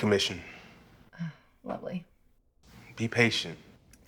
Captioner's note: sighs